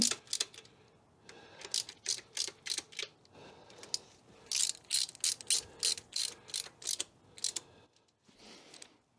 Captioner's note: ratchet Noises